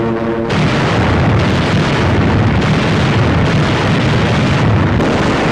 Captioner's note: explosions